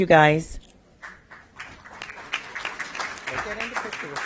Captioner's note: applause